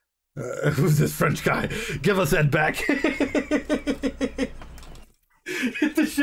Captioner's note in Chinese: 狂笑